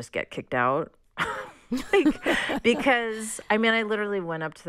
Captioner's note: laughter